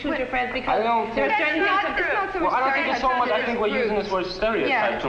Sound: shouting

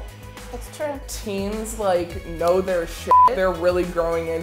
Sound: beep

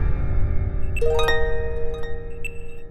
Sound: electronic sound playing

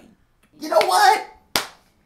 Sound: clap

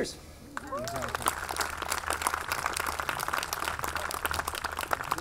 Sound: audience clapping

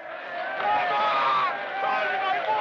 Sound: people cheering

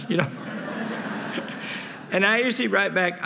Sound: laughter

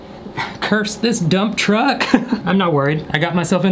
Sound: laughs

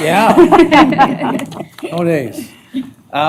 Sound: laughter

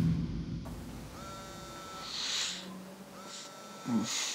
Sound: phone vibrates

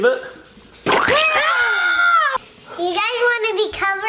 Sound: splat; joyous yelling

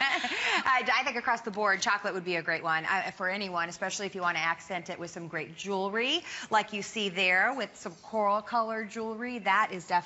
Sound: laughter

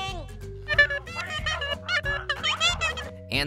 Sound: squeaking

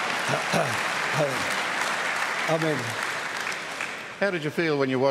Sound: applause

